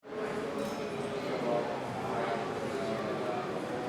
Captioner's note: people chattering